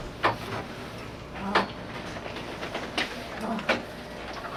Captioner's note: groaning Softly